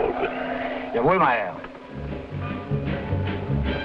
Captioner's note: Gregory speaking foreign language; driver speaking foreign language; dramatic music